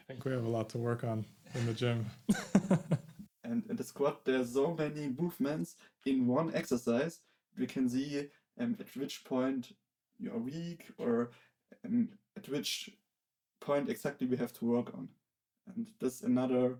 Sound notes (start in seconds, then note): 3.3 laughing